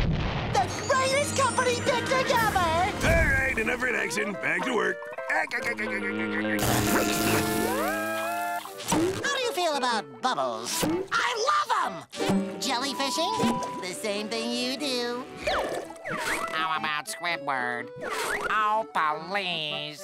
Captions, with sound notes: The greatest company picnic ever! All right enough relaxing, back to work. [laughing] How do you feel about bubbles? -I love them! -Jellyfishing? The same thing you do. -How about Squidward? -Oh, please.